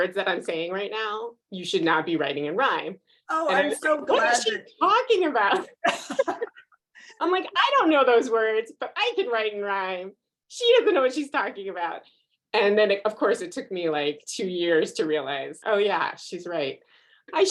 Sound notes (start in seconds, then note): 5.6 both laughing